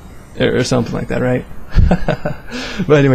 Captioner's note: haha